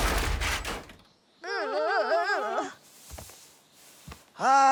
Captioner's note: children groaning